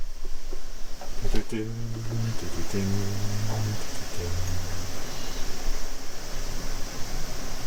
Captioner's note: H umming music